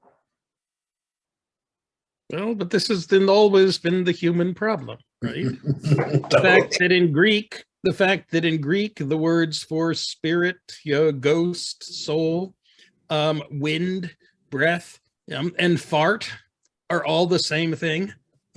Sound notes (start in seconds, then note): 5.4 laughter